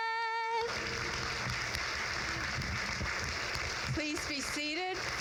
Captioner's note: crowd claps